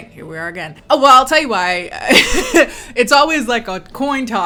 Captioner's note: laughs